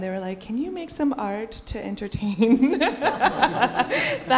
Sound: laughter

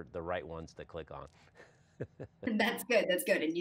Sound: giggle

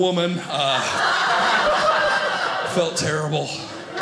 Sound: audience laughing

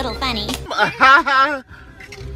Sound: sarcastic Laugh

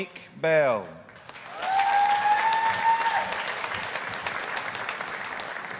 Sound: audience applauding

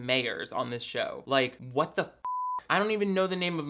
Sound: beep

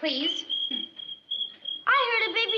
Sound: ducks chirping

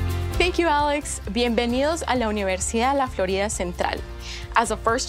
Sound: speaking in Spanish

